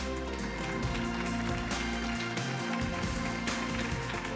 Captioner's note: upbeat music; audience applauding